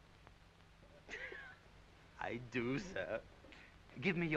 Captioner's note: Audrey giggling